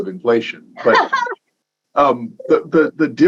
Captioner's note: chuckling